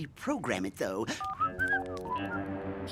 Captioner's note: whistling